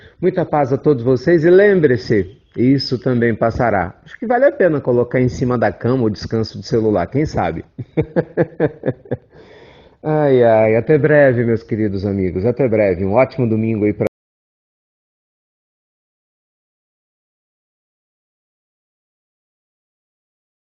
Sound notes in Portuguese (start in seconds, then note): 7.6 risos